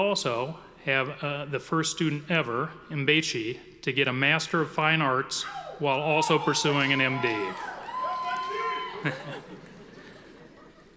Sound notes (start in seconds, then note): 7.5 audience cheering